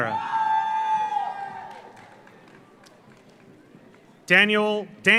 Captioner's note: audience cheers; audience applauds